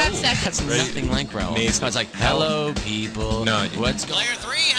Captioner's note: imitating Raul